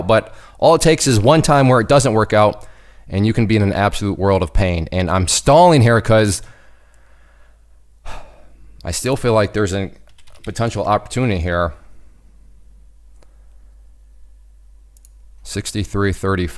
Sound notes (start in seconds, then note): 8.0 sighs